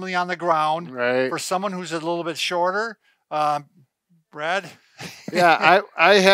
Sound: laughs

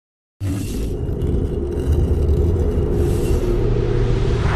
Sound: dramatic sounds

